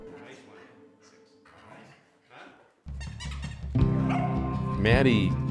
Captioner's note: toy squeaks